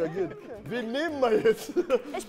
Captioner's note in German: Lachen